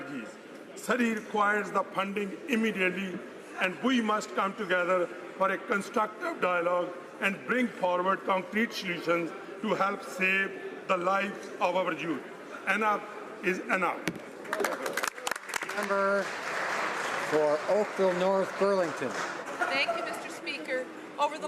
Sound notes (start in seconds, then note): 17.5 some Applause